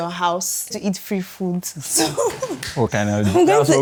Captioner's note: laughs